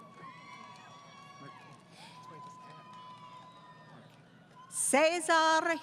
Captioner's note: applause